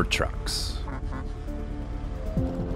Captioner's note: truck horn